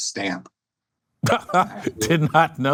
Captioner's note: laughs